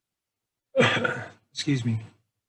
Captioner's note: coughs